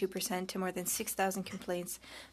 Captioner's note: speaking French